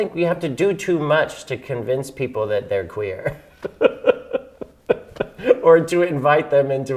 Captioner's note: laughing